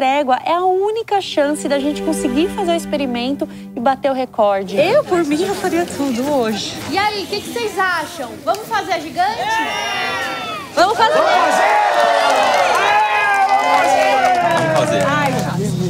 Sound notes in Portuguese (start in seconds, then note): 11.6 público comemora